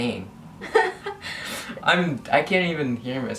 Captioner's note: laughs